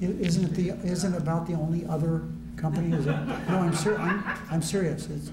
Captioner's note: laughter